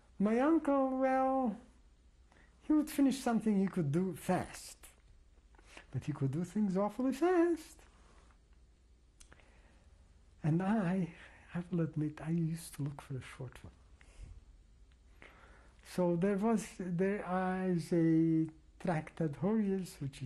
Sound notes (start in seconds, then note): 7.4 pauses for 3 seconds